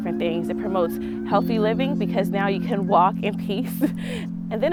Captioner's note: laughs